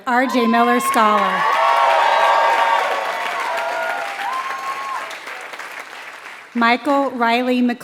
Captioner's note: applause